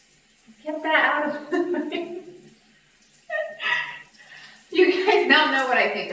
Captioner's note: laughs